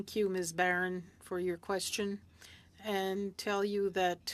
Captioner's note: speaking French